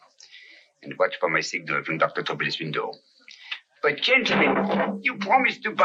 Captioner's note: arguing in French